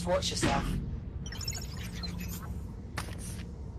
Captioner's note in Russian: Осторожный щебет